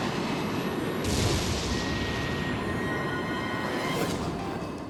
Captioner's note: jet exploding